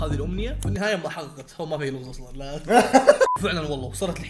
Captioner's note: both laugh